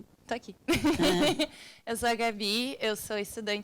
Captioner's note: speaking Portuguese; both laughing; woman speaking Portuguese